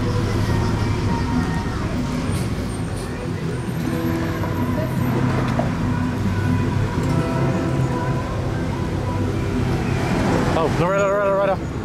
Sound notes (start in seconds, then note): none